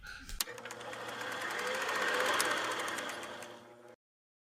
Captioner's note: scrolling